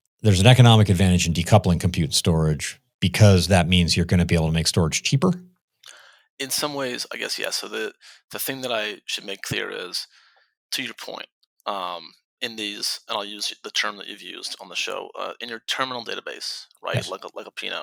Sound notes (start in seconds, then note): none